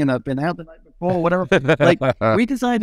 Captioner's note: laughing